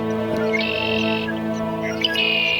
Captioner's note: songbird